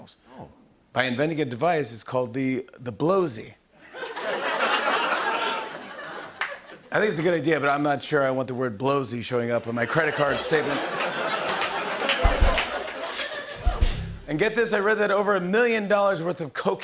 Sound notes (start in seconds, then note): 3.8 laughter; 9.8 laughter